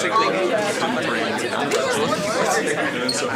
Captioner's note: background chatter